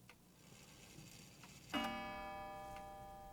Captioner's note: clock strikes